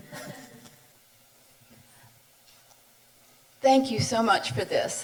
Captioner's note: chuckles softly